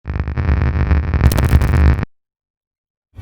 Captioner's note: static crackling